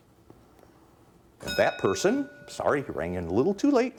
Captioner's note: bell dinging